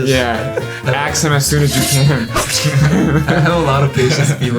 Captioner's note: sword swinging sound